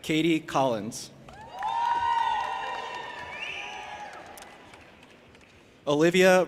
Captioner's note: audience applauding and cheering